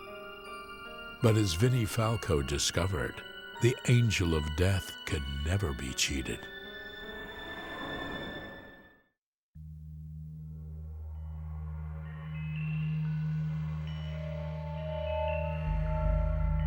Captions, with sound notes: But as Vinnie Falco discovered, the Angel of Death can never be cheated. (ominous music) (wind blowing) (ominous music)